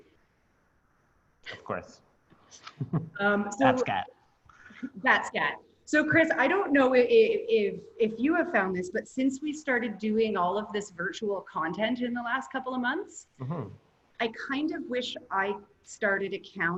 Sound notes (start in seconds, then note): 2.7 laughter